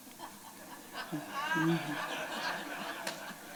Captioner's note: laughter